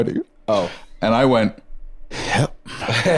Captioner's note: exhaling; laughs